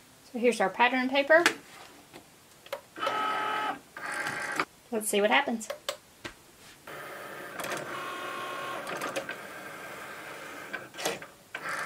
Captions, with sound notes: So, here's our patterned paper. (whirring) Let's see what happens. (whirring)